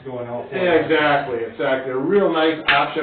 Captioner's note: faintly speaking